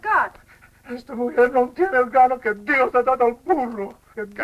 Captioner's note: speaking spanish